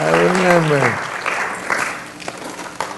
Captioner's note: applause